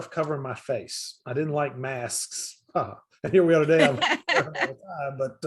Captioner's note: laughs